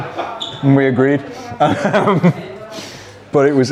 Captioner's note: laughs